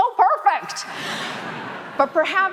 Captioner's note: audience laughing